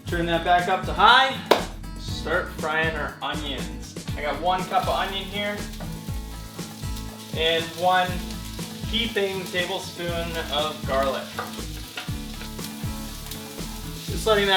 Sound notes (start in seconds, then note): 5.9 sizzling; 11.6 sizzling; 13.3 calm, instrumental music